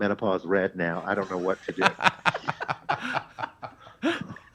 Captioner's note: laughs